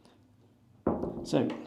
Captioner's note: door clicking